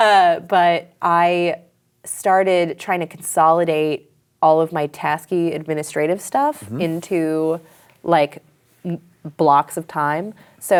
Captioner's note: laughs